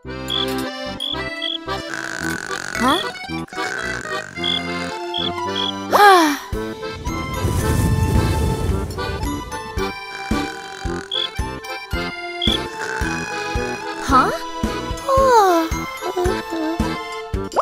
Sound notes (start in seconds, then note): 0.0 whistling; 1.6 snoring; 5.8 sighing; 6.5 wind blowing; 9.8 snoring; 14.8 yawning